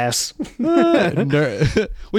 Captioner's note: laughing